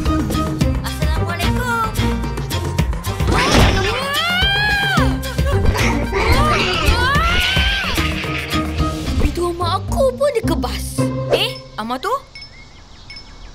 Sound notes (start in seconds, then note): 3.5 Pian screaming